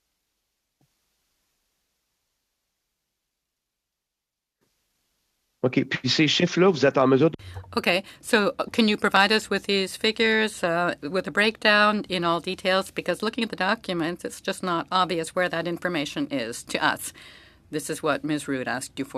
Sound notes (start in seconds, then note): 11.7 speaking French